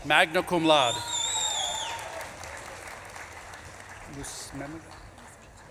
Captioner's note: audience claps and cheers